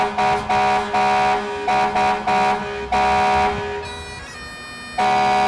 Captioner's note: fire truck horns blasting, bagpipe music